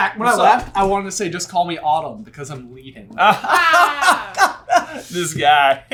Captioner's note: sensible chuckles all around